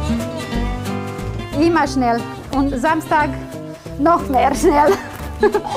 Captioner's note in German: lacht